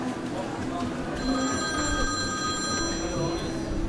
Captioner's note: phone ringing